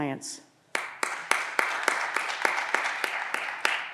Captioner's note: audience applause